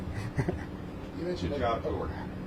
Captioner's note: laugh